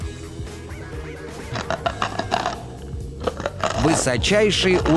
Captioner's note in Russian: грызёт с хрустом